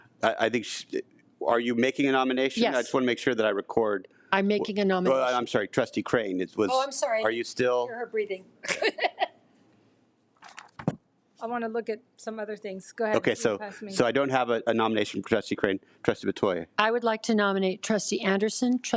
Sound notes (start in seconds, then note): 8.6 laughs